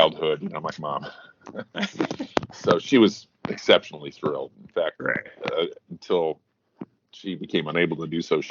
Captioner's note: both chuckle